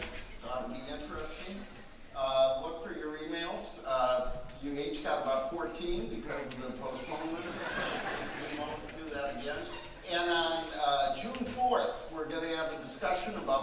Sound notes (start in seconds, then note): 7.0 audience laughing